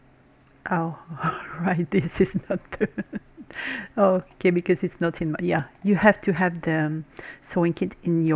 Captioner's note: Rire